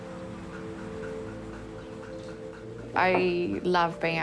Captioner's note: tapping sound